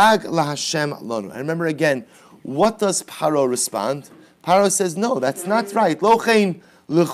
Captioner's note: Hebrew